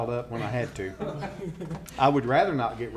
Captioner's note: laughter